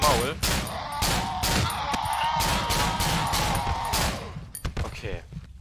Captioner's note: Glock 17 shots combined with weird monsters screamings